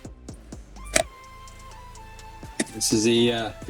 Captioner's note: crackling